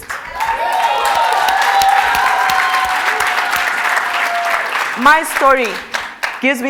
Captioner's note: cheers and Applause